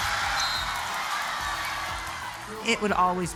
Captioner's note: upbeat music continues; whistle blowing